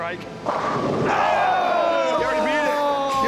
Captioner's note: cheering